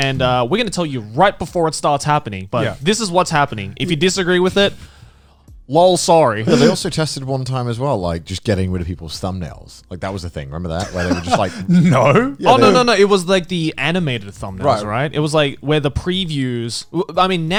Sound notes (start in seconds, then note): 10.8 Garnt laughing